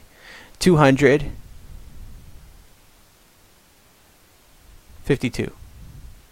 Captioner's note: pause